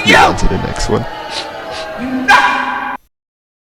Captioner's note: sniffs